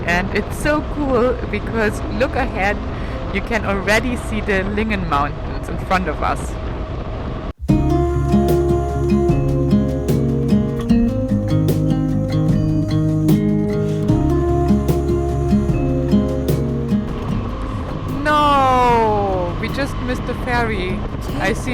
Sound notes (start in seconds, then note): 7.8 light music; 17.3 engine rumbling